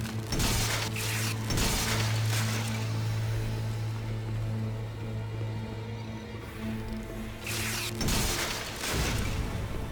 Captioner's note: gunshots